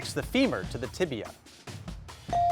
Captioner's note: bell dinging; buzzer buzzing